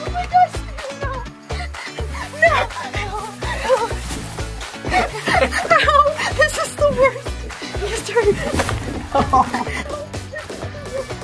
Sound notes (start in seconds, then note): 3.7 panting